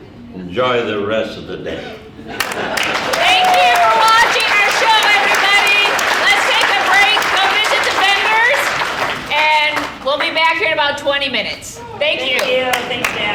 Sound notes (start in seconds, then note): 2.4 audience applauding